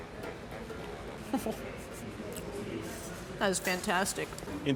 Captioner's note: chuckles